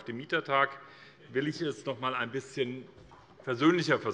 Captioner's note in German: Heiterkeit